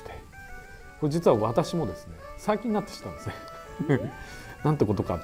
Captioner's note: laughs